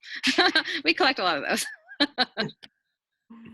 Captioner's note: laughter